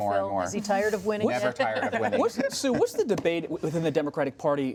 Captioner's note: laughter